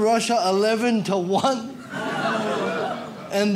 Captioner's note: audience laughs